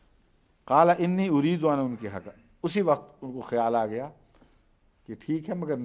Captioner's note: Arabic